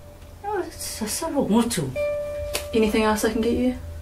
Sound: speaking in Samoan

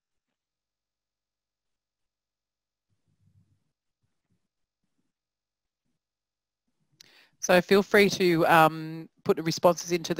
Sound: pause

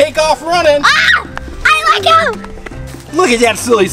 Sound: screams

